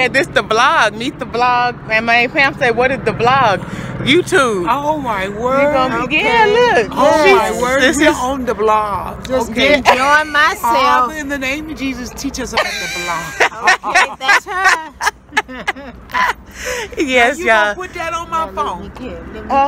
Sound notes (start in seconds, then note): 12.5 laughter